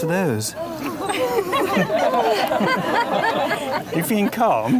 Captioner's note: crowd laughs